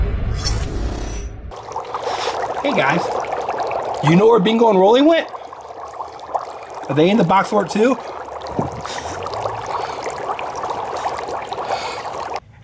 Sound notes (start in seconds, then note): 1.7 water bubbling; 3.5 bubbling; 8.1 bubbling